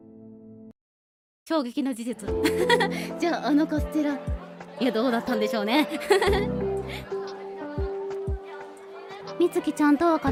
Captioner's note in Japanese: 笑い